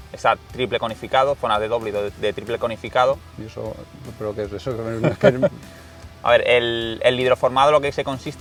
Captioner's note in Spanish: risas